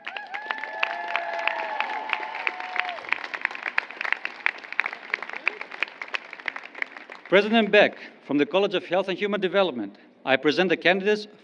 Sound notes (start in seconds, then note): 2.5 applause